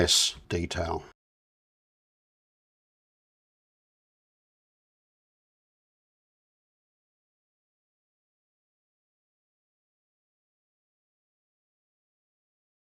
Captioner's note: silence